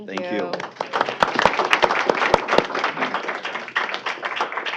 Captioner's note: applause